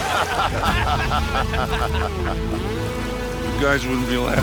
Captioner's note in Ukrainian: сміх